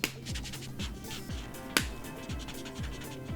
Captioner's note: marker caps clicks off